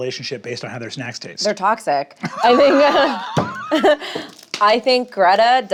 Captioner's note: laughs